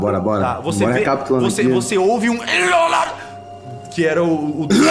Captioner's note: scream; coughing